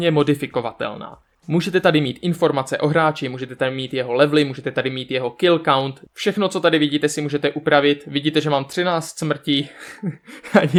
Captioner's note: he-he